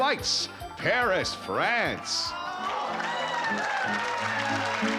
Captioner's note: cheering; french music